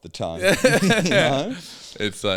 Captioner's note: laughing